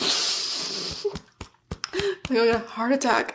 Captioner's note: sniffsss